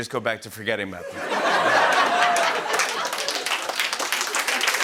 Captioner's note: applause